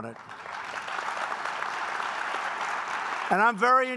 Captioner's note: applause